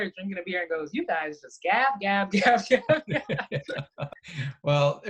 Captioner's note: laughs